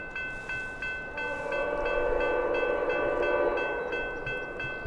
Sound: distant ghostly horn

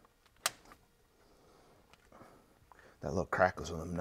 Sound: crack

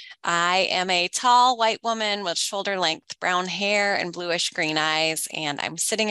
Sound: none

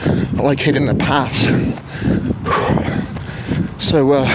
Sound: huffs

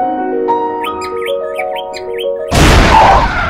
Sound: Pearl chirping

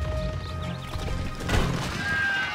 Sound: crumbling; cheers and applause

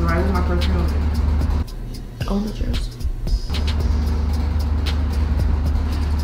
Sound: indiscernible chatter

